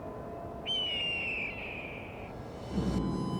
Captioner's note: eerie music; bird screeching; eerie music